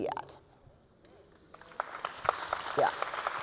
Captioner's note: applause